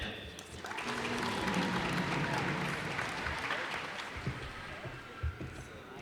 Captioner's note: cheers and applause